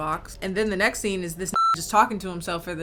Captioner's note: beep